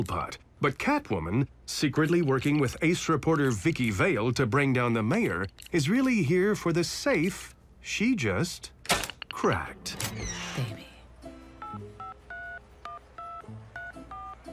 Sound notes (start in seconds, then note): 9.7 door creaks; 11.4 dials phone